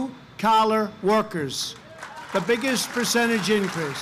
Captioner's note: applause